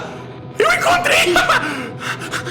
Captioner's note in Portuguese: pequena risada